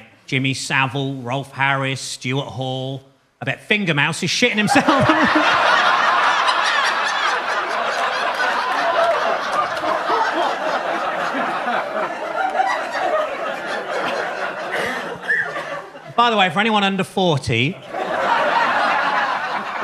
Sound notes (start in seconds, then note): 4.6 Gary chuckling; 5.9 audience laughing